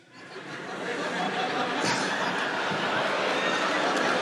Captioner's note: audience laughing